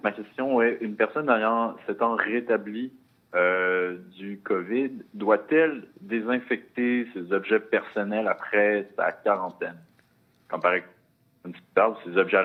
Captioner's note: speaking in French